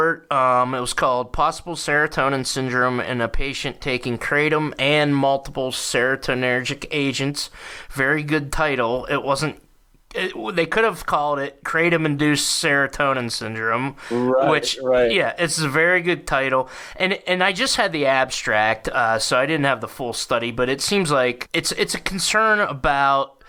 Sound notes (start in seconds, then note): 10.8 stammering